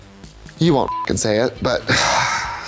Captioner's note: beep